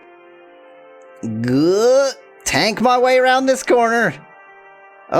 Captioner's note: groans